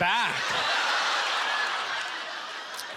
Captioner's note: audience laughter